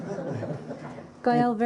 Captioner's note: laughter